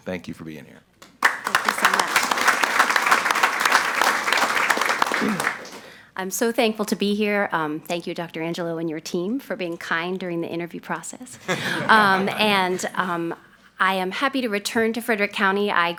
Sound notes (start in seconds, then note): 4.0 audience applauds; 11.3 all laughing